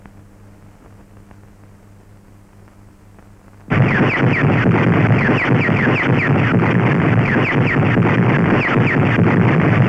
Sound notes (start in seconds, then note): 3.7 missles whistles as they ignite and launch